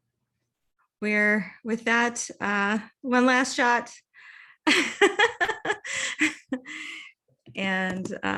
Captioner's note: laughs